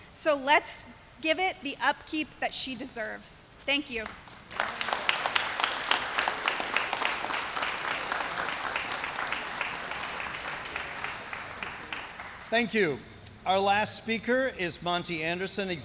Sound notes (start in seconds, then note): 4.0 applause